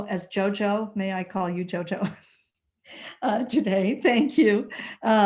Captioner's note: laughter